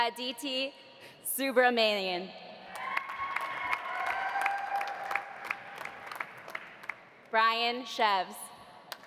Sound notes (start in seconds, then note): 2.8 audience cheering; 2.8 audience applauding